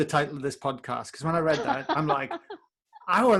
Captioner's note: laughs